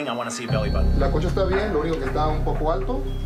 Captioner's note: man speaking Spanish